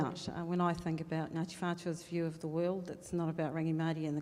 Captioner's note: speaking in foreign language